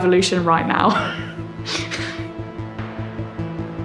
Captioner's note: laughs